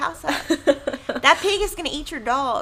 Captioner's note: laughing